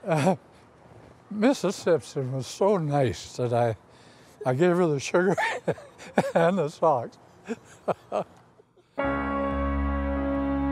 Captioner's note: laughs